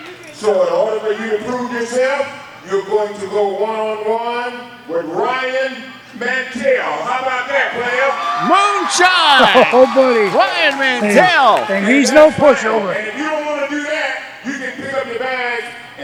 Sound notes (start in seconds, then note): 7.6 audience cheering